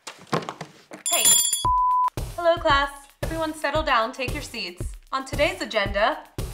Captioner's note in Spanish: ring